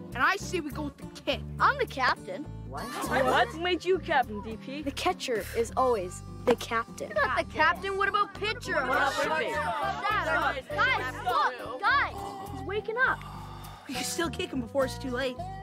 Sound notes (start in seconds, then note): 8.5 chattering; 11.6 groaning